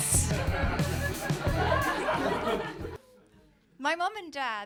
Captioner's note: audience laughing